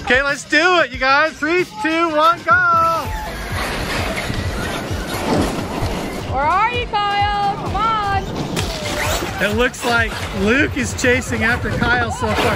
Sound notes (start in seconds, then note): 3.0 engines start humming